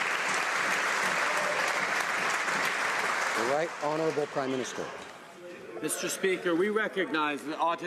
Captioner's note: some Applause